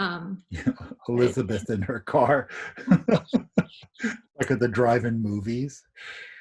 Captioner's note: laughs